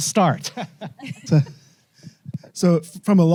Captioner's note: laughs